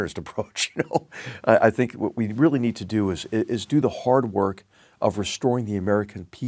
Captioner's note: laugh